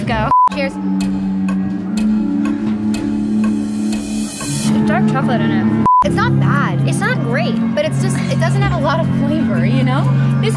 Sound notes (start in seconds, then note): 0.1 clock ticking; 0.2 beep; 5.8 beep